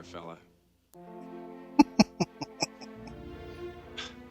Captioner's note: chuckling